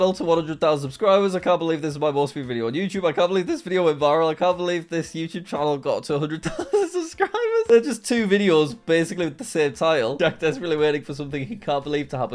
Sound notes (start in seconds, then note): 6.4 laughs